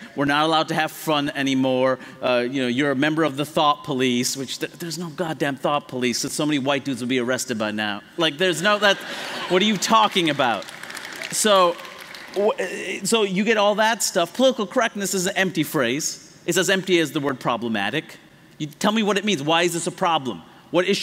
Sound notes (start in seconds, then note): 8.7 laughter; 9.4 applause